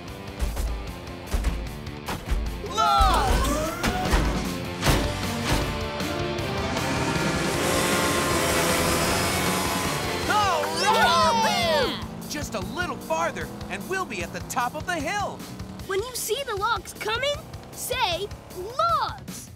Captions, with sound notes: Logs! [cheering] Just a little farther and we'll be at the top of the hill. When you see the logs coming, say, "Logs".